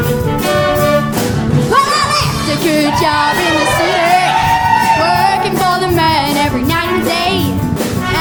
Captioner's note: audience cheers